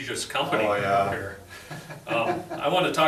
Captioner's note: laughs